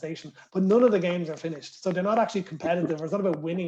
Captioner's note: laughter